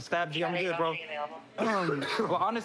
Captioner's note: coughs